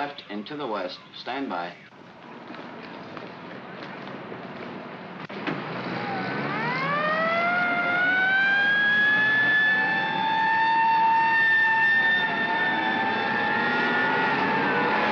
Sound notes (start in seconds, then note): 2.0 feet scrambling; 5.2 sirens wailing & vehicles accelerating